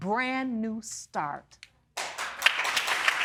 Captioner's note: audience applauding